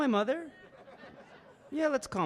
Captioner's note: audience laughing